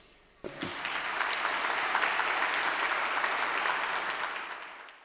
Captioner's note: students applauding